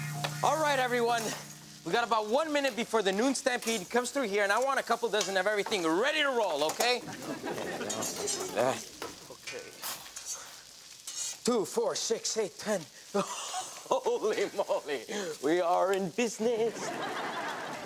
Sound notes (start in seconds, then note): 0.0 grill sizzling and plates shuffling; 7.0 audience laughs; 13.1 laughing; 16.6 audience laughs